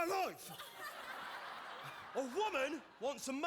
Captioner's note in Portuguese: audience laughing